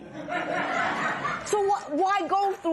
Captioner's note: laughter